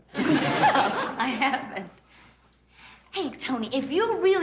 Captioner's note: laughs